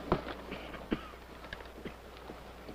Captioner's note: coughs